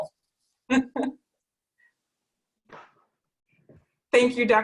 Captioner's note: laughing